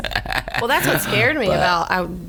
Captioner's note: laughs